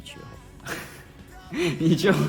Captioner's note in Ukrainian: сміється